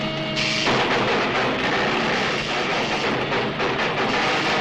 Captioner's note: electricity zaps